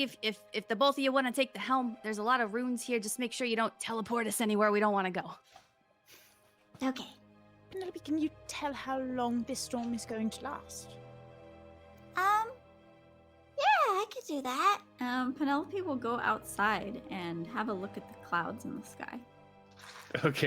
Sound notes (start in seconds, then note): none